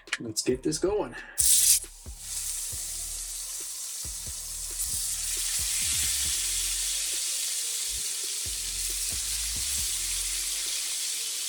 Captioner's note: sizzling